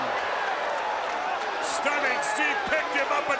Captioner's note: crowd cheering